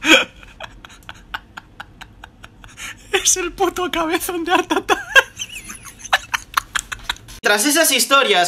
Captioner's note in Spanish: risas; Se parte de la risa